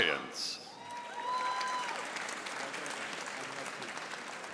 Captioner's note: audience applauding